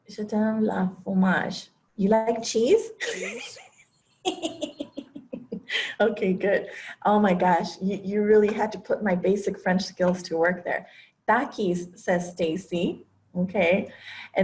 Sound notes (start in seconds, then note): 0.1 speaking french; 4.4 laugh